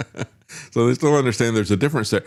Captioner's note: laughs